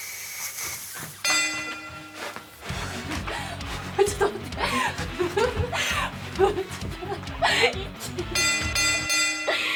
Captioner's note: bell chime; laughing